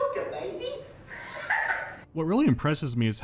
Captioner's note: inhuman laugh